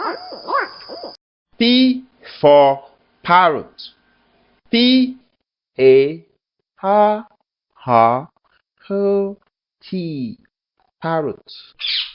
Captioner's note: sound: Chirps